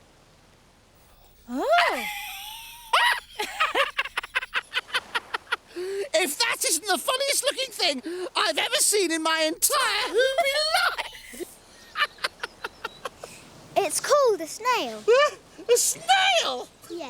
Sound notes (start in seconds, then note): 3.8 laughing; 11.9 laughing